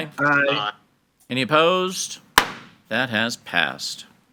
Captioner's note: gavel bangs